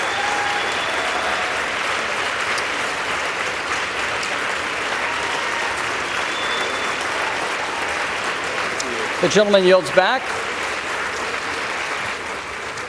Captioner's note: applause